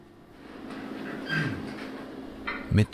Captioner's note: squeaking, roaring